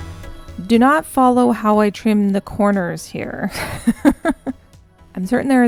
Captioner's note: laughing